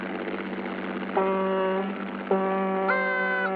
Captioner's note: horn honking; trumpet squeaking